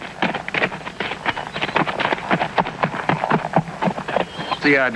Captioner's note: horse trotting